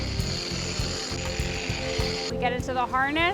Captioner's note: reel screeches